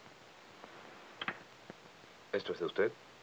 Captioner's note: locket clicks